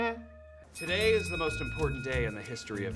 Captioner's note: bell rings